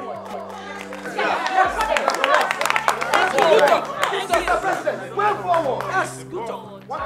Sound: applause

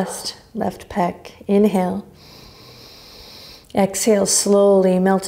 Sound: inhaling deeply

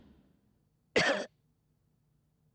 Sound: coughing

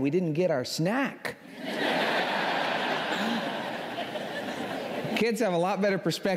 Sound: laughter

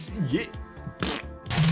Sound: fake fart noise

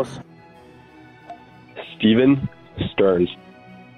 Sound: non-english speech

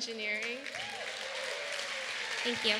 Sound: applause

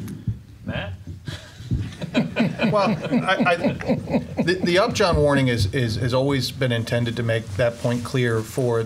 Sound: laughing

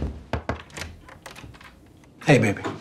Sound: knocking on door

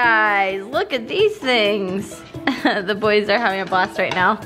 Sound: laughs

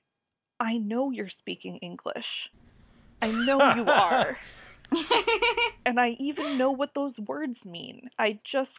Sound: laugh

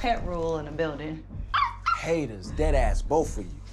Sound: dog yapping

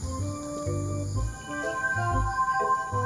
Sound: joyful music playing; magic glimmers

